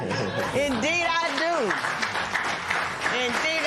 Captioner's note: applause